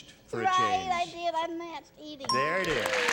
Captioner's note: ding; applause